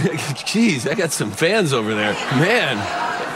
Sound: crowd murmuring

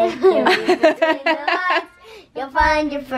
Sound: laughs

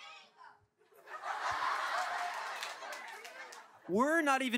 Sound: laughing

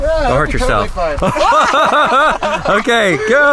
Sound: group laughing

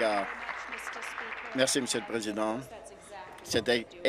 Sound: applause

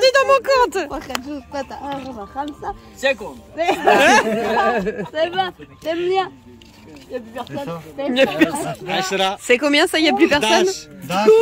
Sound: laughs

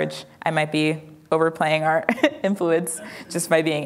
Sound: laughs

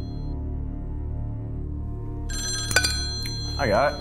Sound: phone ringing

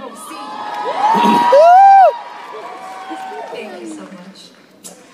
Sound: applause

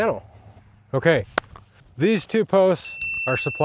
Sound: arrows ding

